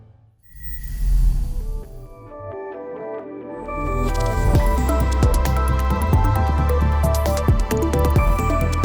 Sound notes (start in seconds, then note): 0.7 air whooshes; 1.6 bright electronic music